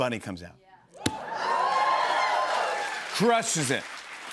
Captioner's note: cheers and applause